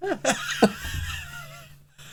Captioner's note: laughing